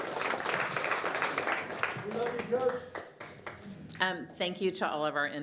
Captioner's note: applause